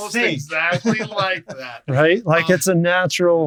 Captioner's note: laughing